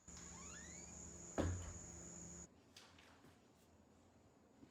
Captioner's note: door squeaks